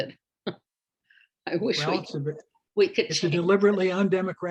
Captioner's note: laughs